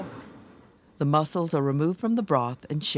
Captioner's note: voiceover